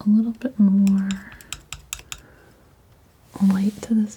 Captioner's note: scratching